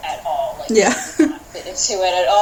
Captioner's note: laughter